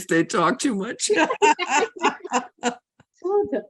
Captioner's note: both laugh